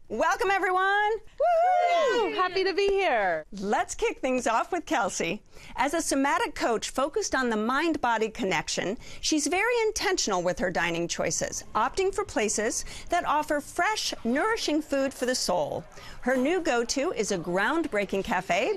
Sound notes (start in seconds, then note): 1.3 all cheer